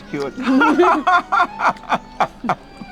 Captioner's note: both laughing